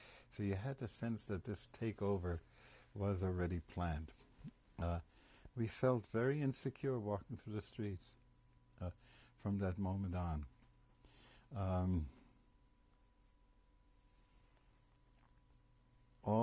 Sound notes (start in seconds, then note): 10.4 pauses for 6 seconds